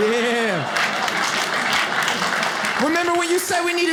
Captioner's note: audience laughs